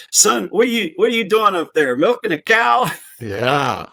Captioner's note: chuckles